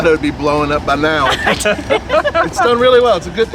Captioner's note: laughing